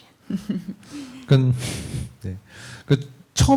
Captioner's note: speaking korean